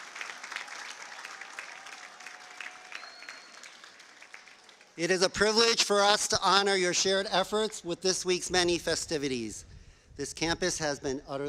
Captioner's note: cheers and applause